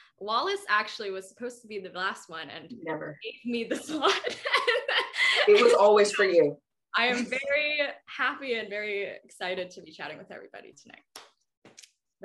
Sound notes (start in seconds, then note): 3.8 laughing